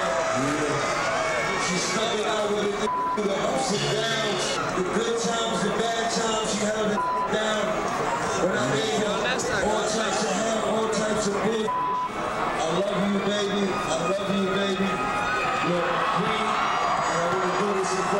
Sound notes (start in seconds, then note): 6.9 beep